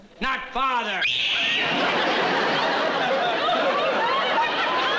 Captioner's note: screaming